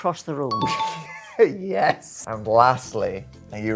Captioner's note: laughing